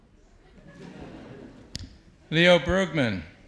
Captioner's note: audience laughs